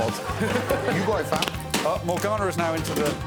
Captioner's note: Morgana shouting